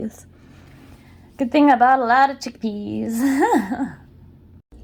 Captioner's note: laughs